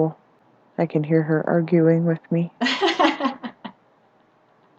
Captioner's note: laughter